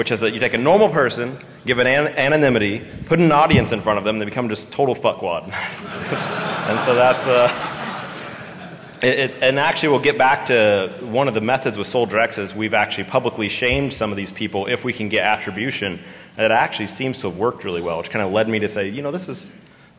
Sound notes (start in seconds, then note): 5.5 laughter